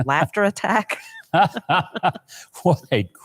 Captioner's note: both laughing